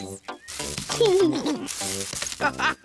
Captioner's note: laughs; all laugh